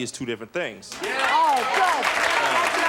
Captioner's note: audience applauds